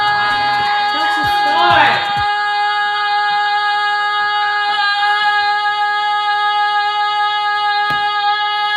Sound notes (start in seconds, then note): 3.2 continuous yelling